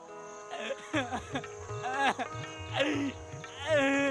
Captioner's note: sobbing, crying